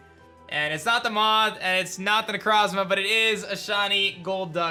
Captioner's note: none